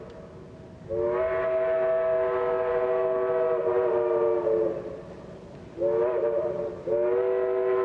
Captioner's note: train whistles